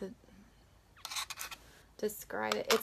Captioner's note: scratching